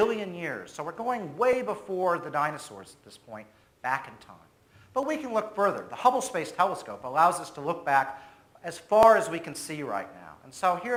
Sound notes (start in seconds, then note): none